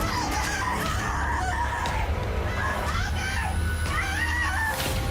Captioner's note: screams